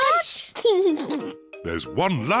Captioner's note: laughs